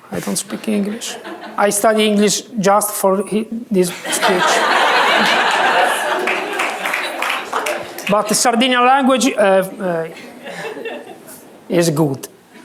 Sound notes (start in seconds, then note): 3.9 laughter